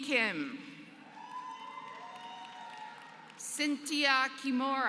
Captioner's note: applause